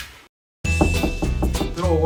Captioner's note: knock!